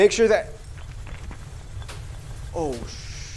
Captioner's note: earthquake sounds effects